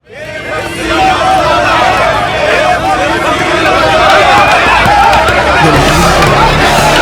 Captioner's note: protest Commotion